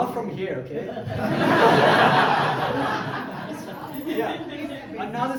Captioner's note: crowd laughing; crowd laughs